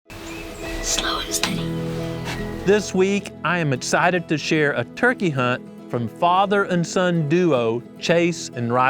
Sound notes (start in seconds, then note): 1.2 whispering